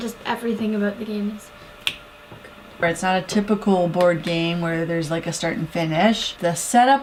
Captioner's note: finger snap